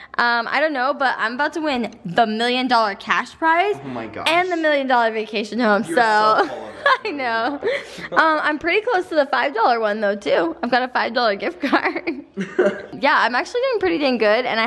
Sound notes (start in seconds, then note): 5.7 laughs; 11.8 chuckles